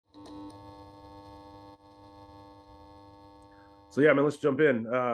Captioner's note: electricity buzzes